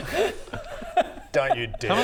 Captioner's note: happy noises